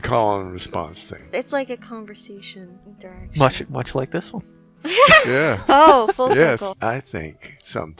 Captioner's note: laughing